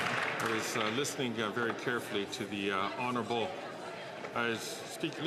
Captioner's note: some Applause